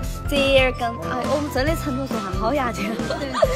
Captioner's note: She's speaking in Chengdu dislect